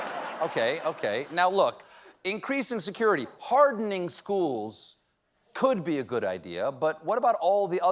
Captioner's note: laughter